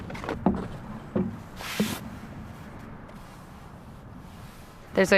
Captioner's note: fingers sliding on canvas